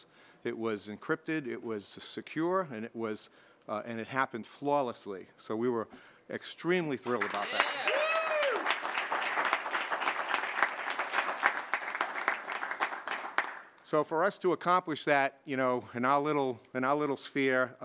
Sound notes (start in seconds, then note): 7.1 cheers and applause